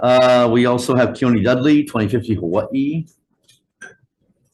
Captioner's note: none